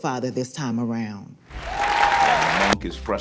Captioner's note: crowd cheers